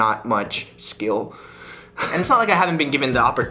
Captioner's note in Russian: Хихикает